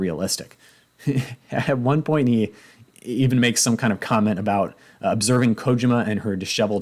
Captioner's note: chuckles